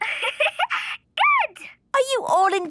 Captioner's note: giggling